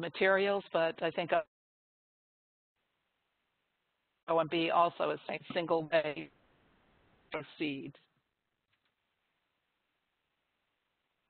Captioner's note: audio break